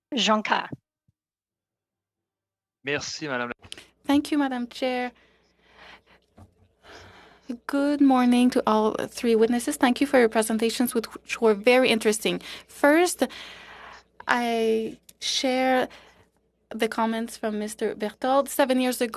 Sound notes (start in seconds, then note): 8.0 speaking French